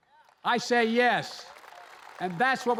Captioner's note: applause